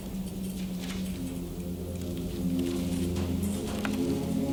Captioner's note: pages flapping